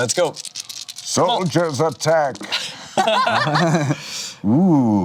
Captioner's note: laughs